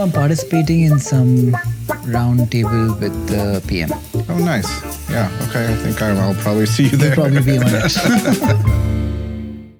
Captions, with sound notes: No, I'm participating in some round table with the PM. Oh, nice. Yeah, okay. I think I'll probably see you there. -You'll probably be on it. -[laughs]